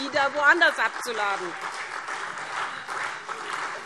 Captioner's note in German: Beifall SPD